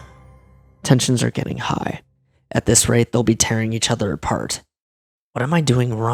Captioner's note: deep breath